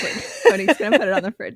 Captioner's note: laughs